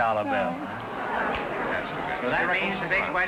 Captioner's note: audience groaning